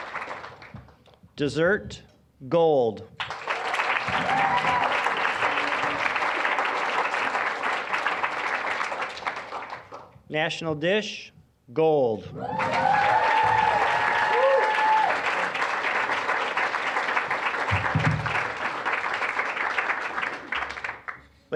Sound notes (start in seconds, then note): 0.0 applause; 3.2 applause; 12.3 applause, cheering; 16.6 applause